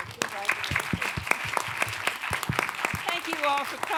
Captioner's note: applause